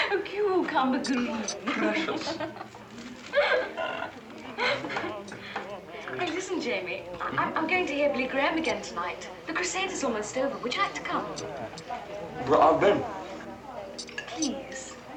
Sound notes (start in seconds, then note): 2.6 laughing